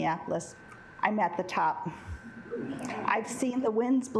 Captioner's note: assembly chuckling